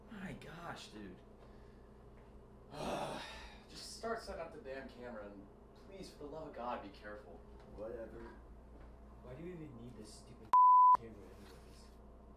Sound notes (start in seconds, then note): 2.7 groans